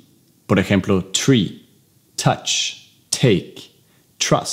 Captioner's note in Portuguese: Inglês